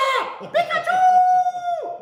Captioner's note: laughing